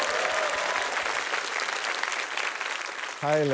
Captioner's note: cheering, applause